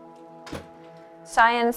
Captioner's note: door shutting